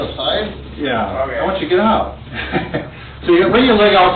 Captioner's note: laughs